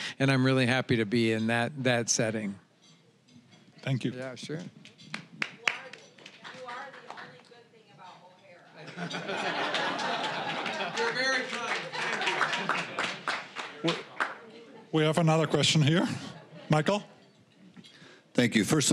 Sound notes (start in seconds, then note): 5.1 scattered applause; 8.8 audience laughing; 12.7 applause